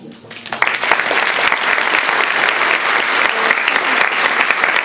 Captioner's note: applause